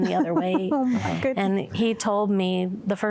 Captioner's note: giggling